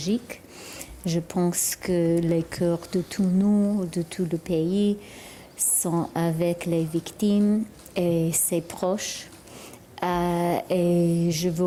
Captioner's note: speaking french